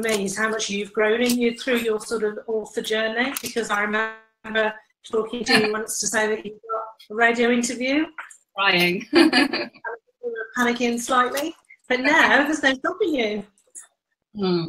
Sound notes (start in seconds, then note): 9.0 laughs